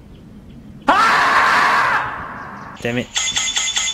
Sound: screaming marmot

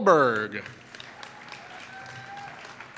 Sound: applause

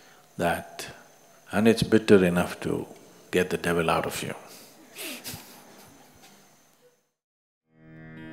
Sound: laughs

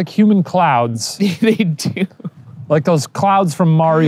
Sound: laughing

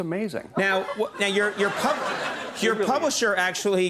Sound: audience laughs

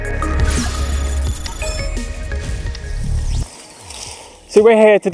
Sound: electronic dinging

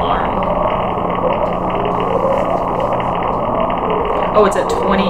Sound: siren-like noise on top of deep, crackly noise

